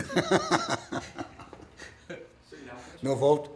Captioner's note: laughing